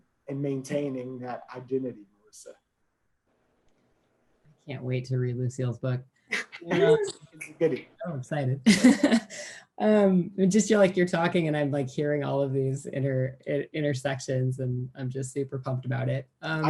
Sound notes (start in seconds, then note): 6.3 laughing